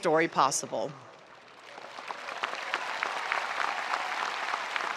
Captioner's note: audience applauding